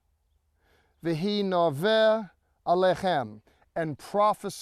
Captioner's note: speaking in Hebrew